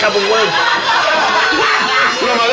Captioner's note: laughs